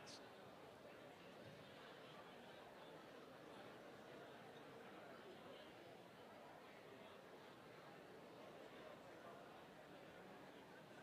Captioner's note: group talking